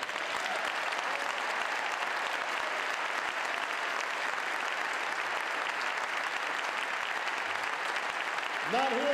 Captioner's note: applause